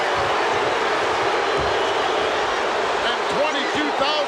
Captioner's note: audience chanting